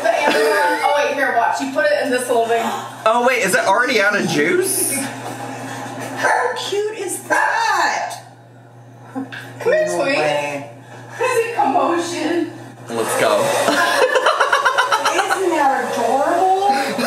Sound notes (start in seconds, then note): 13.6 laughing